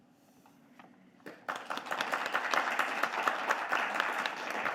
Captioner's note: audience clapping